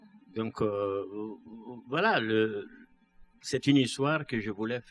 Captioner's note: speaking french